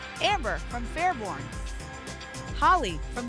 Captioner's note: none